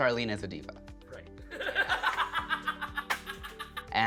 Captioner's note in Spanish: ríe